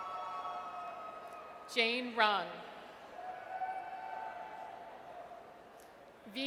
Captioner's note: audience cheers